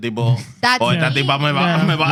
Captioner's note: speaking Foreign Language